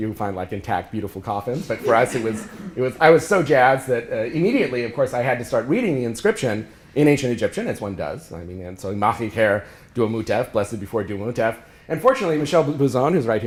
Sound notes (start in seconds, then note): 8.9 speaking ancient egyptian